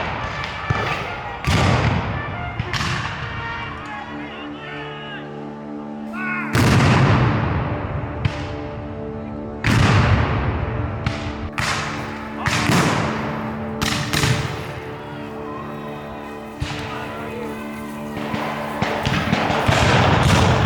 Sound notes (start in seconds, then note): 0.2 dramatic bugle music; 6.5 cannon fires; 14.6 guns fire